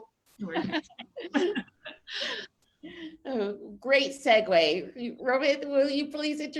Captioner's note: laughs